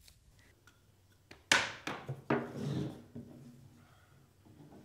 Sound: stick clattering

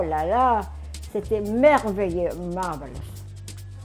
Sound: speaking foreign language

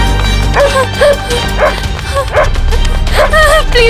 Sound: dog barks

